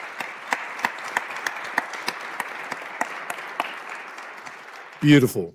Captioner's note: applause